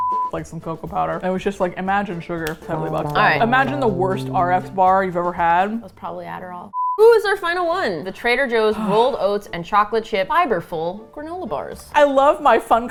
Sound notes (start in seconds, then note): 5.4 dreamily